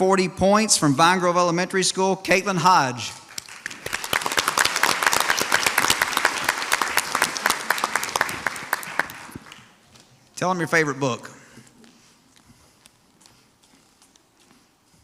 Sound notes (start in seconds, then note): 3.3 audience applauds